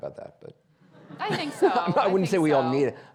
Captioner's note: audience laughing